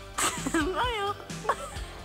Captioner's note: laughs